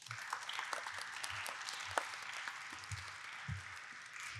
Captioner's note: audience applauding